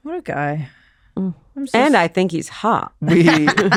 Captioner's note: laughs